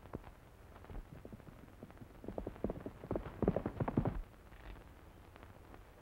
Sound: horse hooves clomping

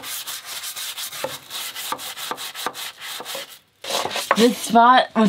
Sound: brush scrubbing

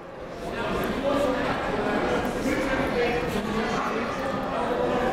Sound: crowd talking

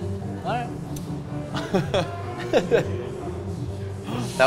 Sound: both laugh

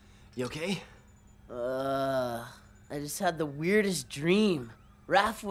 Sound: groaning

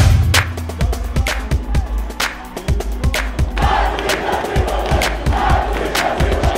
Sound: chanting

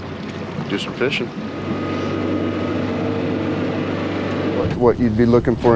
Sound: boat engine running

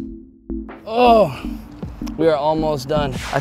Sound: grunts

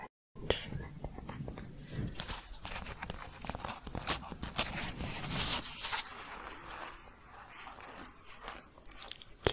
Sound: tapping and scratching

